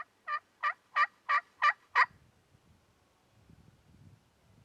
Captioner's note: turkey call squeaks